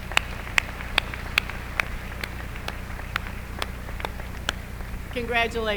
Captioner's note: applause